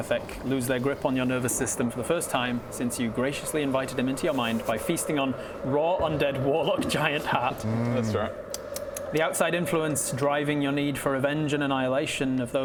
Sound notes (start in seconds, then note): 7.2 nom nom nom